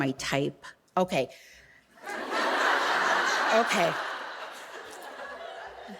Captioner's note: audience laughing